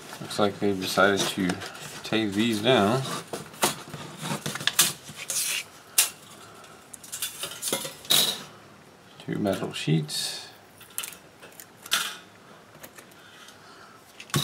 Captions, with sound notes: Looks like they decided to tape these down. [ripping sound] [clanking metal] Two metal sheets. [more metal clinking]